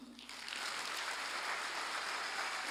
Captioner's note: applause